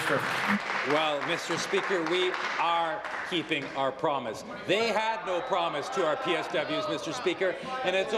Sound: applause

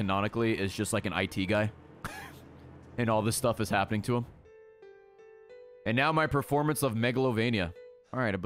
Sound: laughs

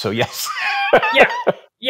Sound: laughing

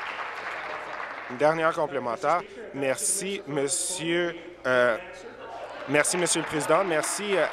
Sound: applause

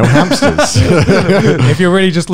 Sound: laughing loudly

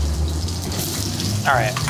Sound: pork sizzles

